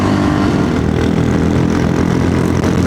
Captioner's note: engine noise